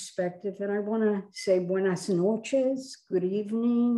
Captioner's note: speaks in foreign language